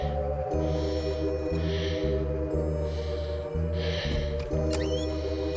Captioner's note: person panting; scary music